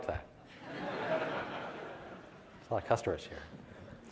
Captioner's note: audience laughs